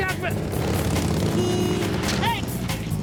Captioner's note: car horn honks